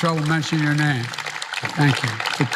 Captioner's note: applause